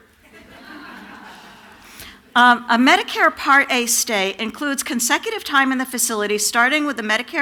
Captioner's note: laughter